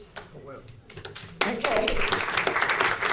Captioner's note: audience applauding